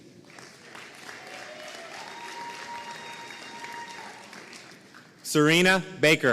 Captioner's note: audience cheering and applauding